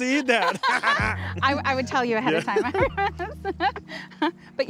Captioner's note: laughs